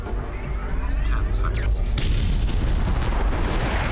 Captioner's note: electric zapping